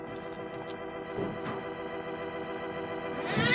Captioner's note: door opens